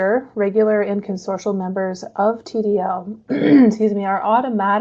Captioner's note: clears throat